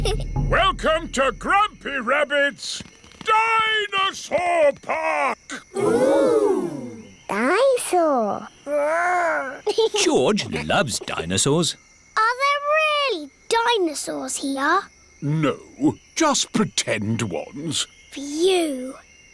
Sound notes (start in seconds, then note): 9.4 giggles